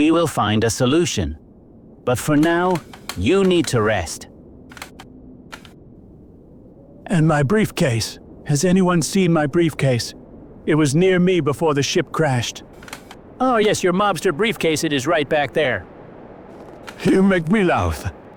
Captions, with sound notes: We will find a solution. But for now, you need to rest. (Stool creak) And my briefcase. Has anyone seen my briefcase? It was near me before the ship crashed. Oh yes. Your mobster briefcase. It is right back there. You make me laugh.